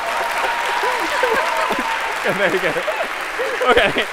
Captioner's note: applause; cheers